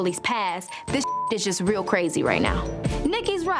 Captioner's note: beep